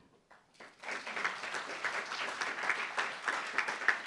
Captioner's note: applauds